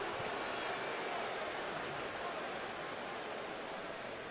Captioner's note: booing